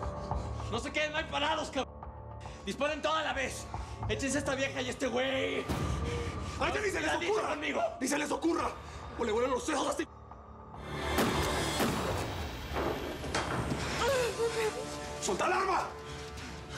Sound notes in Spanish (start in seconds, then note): 13.7 habla entre dientes